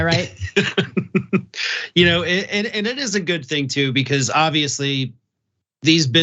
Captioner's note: laugh